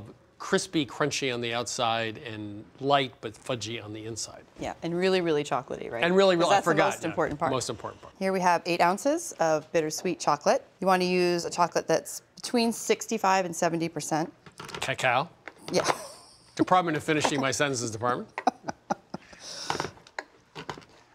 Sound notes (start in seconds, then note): 14.9 laughs; 18.3 chuckles